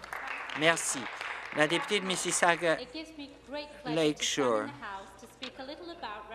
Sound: some Applause

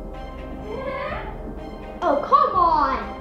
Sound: creepy laugh

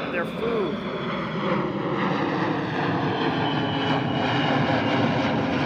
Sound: airplane engine

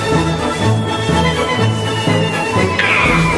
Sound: stark object falling

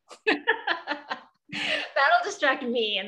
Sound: laughs

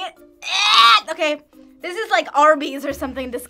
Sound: wretches

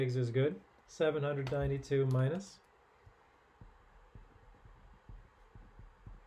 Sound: calculator clanking

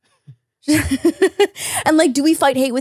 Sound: laughs

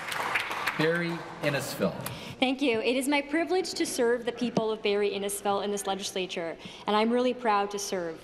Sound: applause

